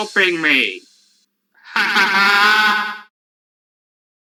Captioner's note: laughing